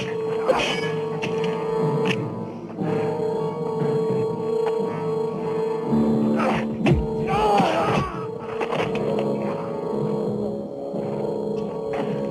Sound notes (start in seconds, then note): 0.4 men grunting; 6.9 crowd groaning